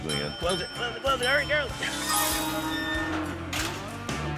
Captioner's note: dings